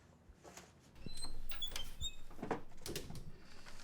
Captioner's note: creaking sound